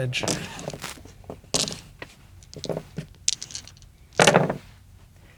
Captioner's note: dice rattling; dice rolling